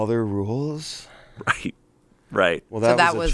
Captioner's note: chuckles